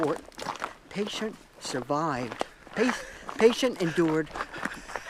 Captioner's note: laughs